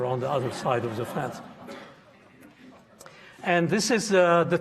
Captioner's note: audience laughing